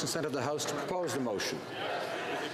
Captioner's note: some Applause